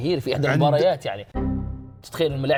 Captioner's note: error sound